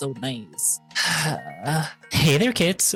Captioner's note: sigh